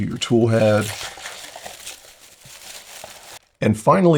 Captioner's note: paper Rustling